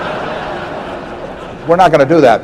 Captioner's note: laughter